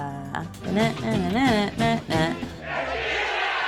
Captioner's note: humming